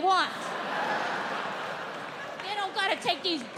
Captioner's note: audience laughing